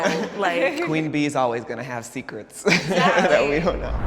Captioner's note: laughing